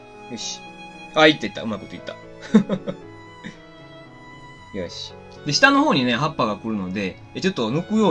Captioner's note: laughs